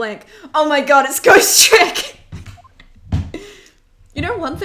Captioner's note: laughs